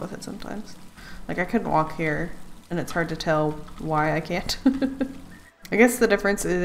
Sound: laughs

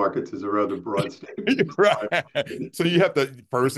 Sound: laughter

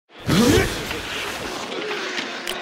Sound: grunts; hockey game on TV, click

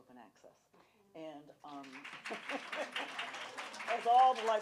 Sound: applause

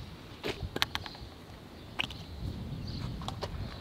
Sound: lid flapping

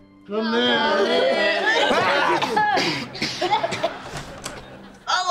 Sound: coughing

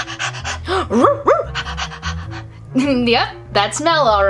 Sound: excited barking and panting; panting

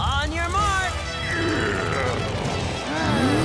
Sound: growling

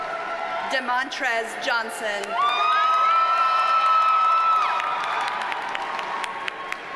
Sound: audience cheers and applauds

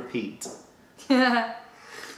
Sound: sips tea

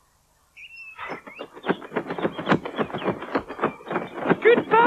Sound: Sound Of Mr Hooter Flapping His Wings

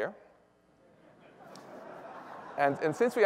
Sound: laughter

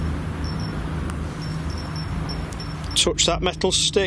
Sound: device beeps

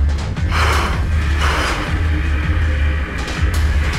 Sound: heavy breathing

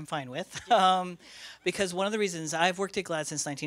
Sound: laughs

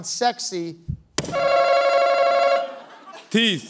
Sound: answer button rings

